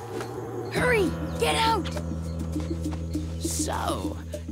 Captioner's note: whispers